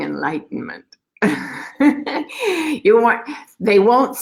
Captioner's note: laughing